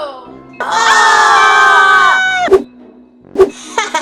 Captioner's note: screams